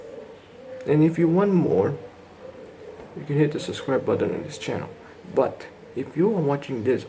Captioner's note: none